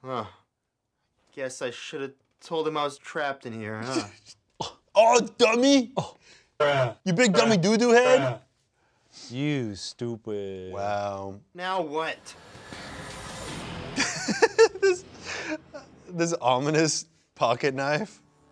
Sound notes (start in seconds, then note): 12.2 ominous music; 13.9 laughs